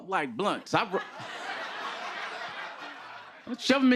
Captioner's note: laughter